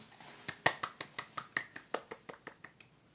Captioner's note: sound of clapping